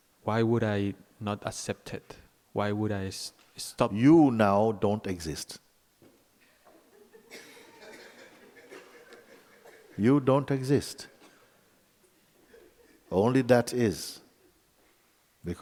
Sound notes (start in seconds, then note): 6.7 laughter